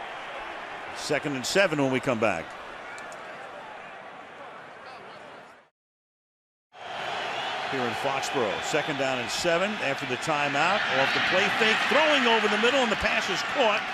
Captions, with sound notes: Timeout. Second and 7 when we come back. [cheering] Here in Foxborough, second down and 7 after the timeout. Off the play fake, throwing over the middle, and the pass